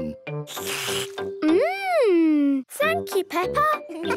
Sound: slurps

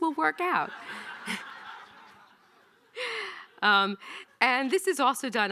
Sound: audience laughing

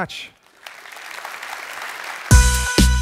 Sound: applause

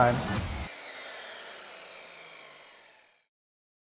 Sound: saw whirring

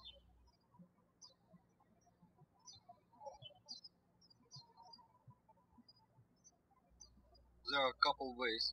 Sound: birds chirping

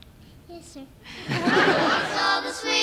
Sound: laughter

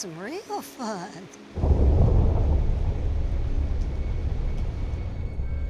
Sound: thunder rumbles

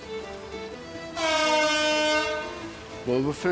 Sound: klaxon

